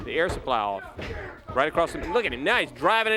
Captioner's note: crowd chatter